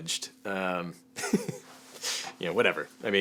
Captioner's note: laughs